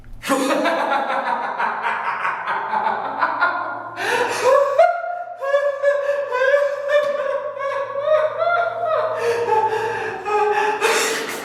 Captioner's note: maniacal laughing